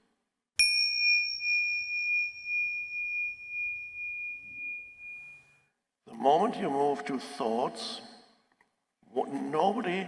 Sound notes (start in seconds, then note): 0.6 bell dinging